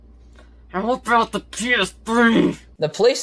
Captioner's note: strained